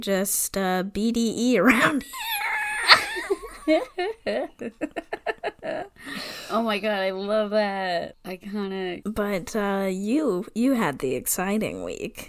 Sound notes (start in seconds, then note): 1.7 wheeze laughs; 4.4 laughs